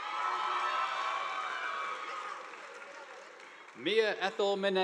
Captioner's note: audience applauding